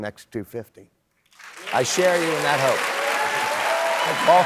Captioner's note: applause